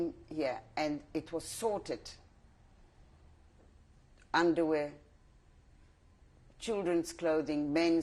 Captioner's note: pauses for 3 seconds